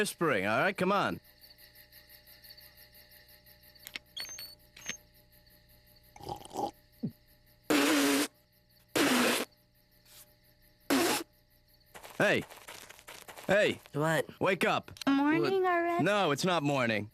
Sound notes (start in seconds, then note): 6.2 slurping; 8.9 spitting